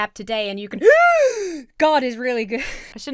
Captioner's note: exhales; inhales sharply